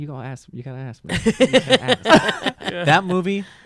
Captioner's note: laughing